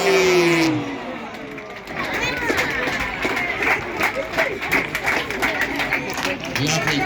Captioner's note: applause